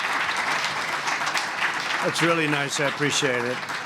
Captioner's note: applause